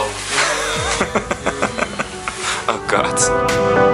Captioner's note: laughter